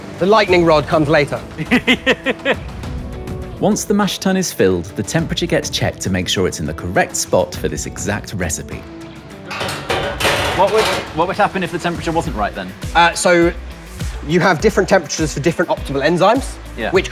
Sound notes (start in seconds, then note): 1.5 laughs; 9.4 metal lid closing